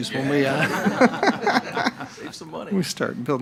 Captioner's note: all laughing